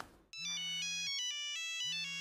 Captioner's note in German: Telefonklingeln